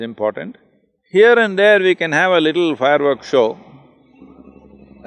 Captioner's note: laughs